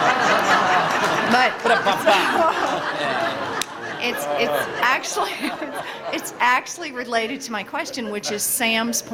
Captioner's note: laughter